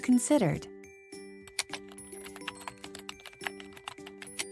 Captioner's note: keyboard typing